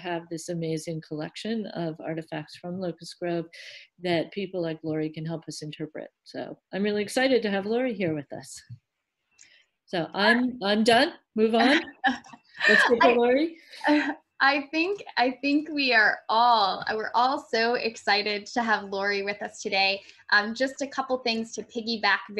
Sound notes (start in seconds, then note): 12.6 laughs